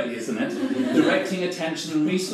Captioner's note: audience laughs